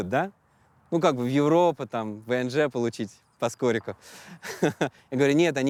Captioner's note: chuckles